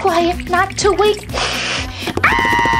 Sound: spider Hisses; Gekko Screams

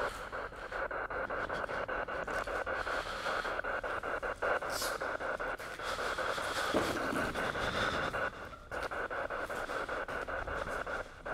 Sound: laugh

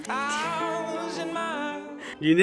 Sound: laughs

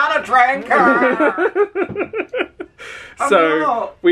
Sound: laughs

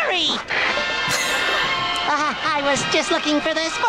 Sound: laughs

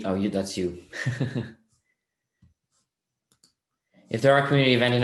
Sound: chuckles

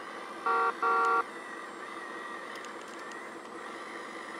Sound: vehicle honks

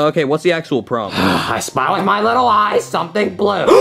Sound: sighs

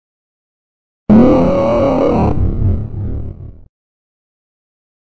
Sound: growl

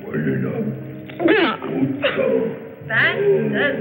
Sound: gags

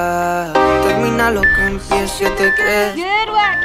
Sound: timer beeping

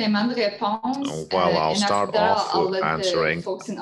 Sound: speaking in French

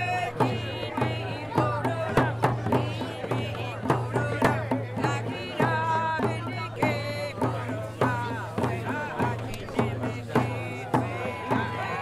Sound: crowd cheers

